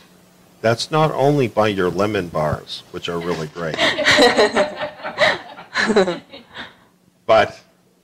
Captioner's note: laughter